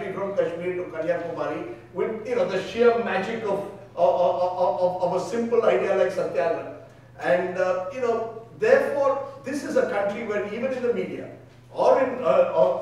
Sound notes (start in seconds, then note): 5.0 speaking in foreign language